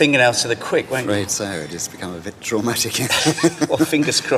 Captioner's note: laughs